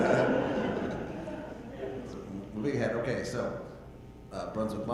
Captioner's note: audience laughing